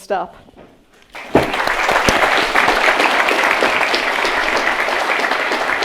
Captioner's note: audience clapping